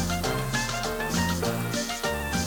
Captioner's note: comal sizzles; tropical upbeat music